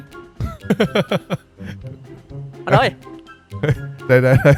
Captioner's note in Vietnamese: tiếng cười